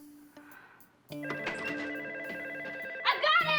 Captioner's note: phone ringing